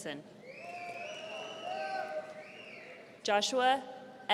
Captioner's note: audience cheering